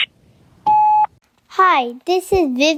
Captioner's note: machine beeps